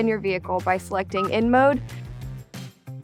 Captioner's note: button beeps